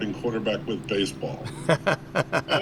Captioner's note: laughs